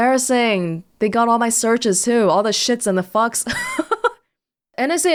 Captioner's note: chuckles